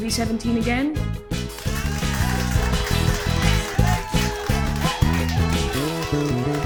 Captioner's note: funky music playing; audience cheering and clapping